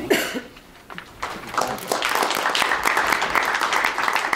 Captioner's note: audience claps